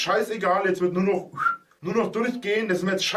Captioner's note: whistles